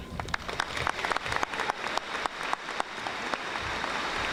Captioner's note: audience applauding